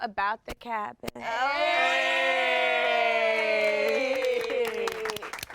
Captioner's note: everyone cheers